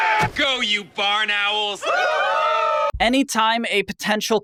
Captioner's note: crowd yells; crowd mimics owl hooting